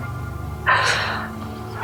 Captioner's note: wimpering